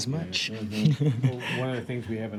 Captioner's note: laughs